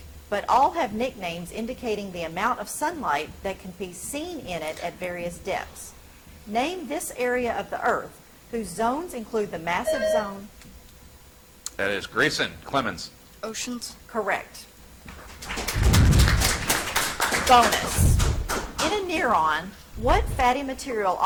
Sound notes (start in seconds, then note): 9.8 buzzer chimes; 15.1 audience applauds